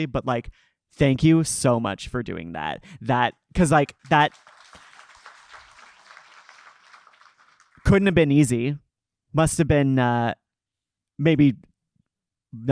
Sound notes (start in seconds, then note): 3.7 audience clapping